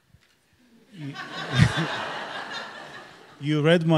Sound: audience laughs

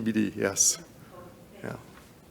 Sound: board member speaks distantly

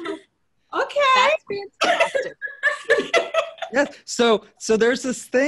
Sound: everyone laughing

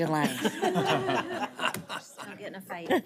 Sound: audience laughing

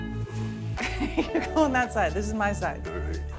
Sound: laughing

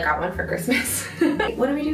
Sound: both giggle

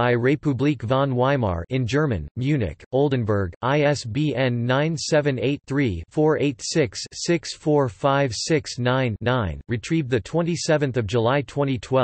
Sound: in German

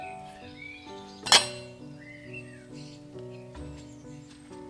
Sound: metal clinks

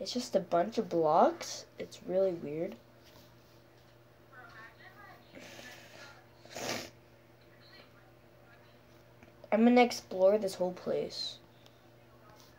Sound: sNiFf

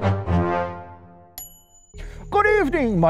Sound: ding

